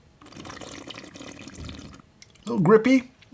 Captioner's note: slurping